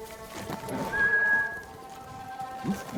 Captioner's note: whistling